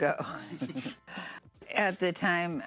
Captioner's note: laughs